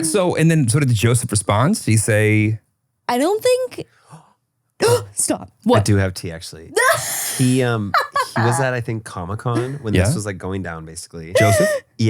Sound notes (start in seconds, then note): 4.7 gasps; 7.5 laughing